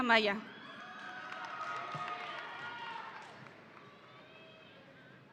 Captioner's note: audience cheering